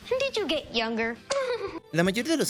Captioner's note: laughs